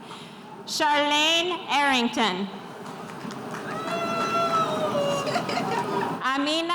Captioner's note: spectator cheering